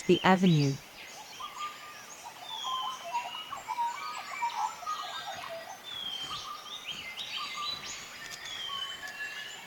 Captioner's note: birds sounds and chirps